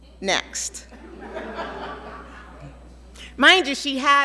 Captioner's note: audience laughing